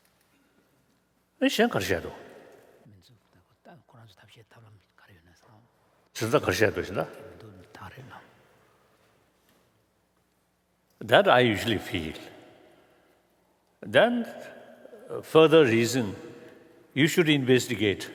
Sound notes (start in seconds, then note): 1.3 foreign Language